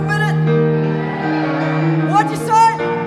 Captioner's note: audience cheers